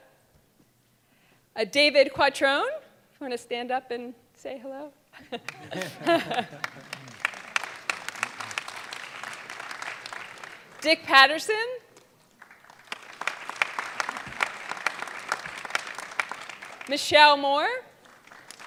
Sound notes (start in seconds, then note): 5.2 laughing; 5.3 audience clapping